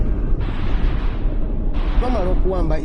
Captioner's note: distorted soundscape of gunfire